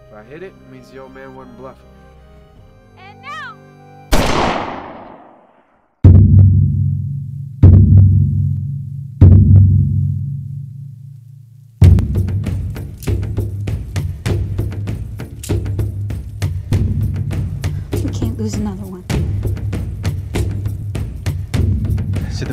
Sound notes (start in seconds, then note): 4.1 gunshot!; 7.0 drums beating